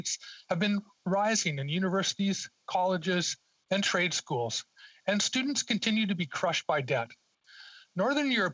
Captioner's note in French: voix de l'interprète